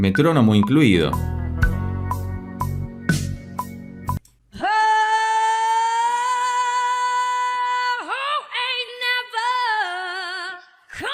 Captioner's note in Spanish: grito